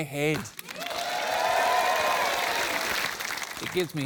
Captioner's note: cheering and applause